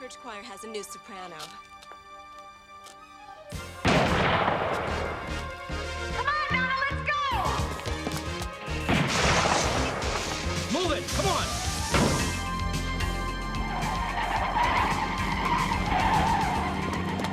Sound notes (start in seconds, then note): 3.8 gun firing; 8.8 gun firing; 14.2 tires squealing